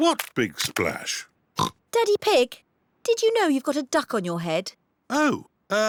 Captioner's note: oinks